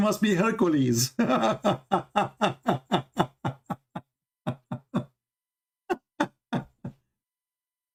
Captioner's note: Ketawa